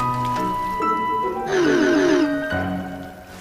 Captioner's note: laughing